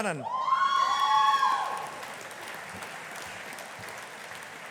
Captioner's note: audience applauding